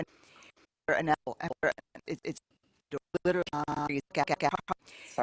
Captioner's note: Static